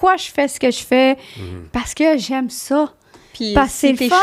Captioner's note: in french